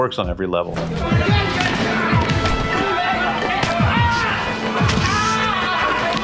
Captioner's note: fighters grunting